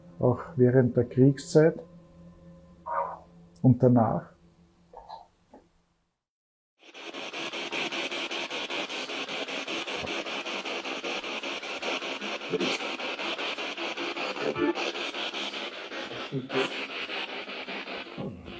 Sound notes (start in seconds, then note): 7.0 radio noise from the spirit box